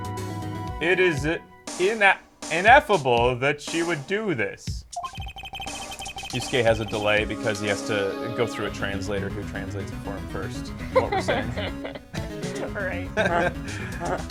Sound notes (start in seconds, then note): 10.7 laughs; 12.7 sarcastically; 13.3 laughs